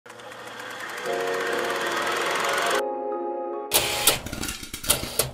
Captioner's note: film reel player clicking; airy electronic music; popcorn popping